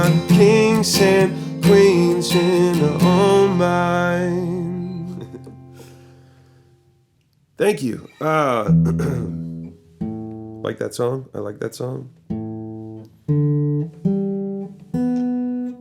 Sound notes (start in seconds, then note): 4.9 chuckles; 8.7 clears throat; 14.5 plucking